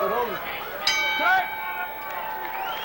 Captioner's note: bell rings; cheering, applause